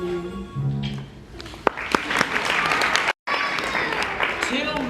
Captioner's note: song ends; applause